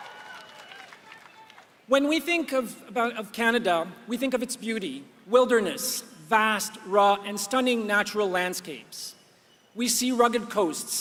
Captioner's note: applause